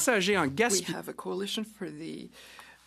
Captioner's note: speaking French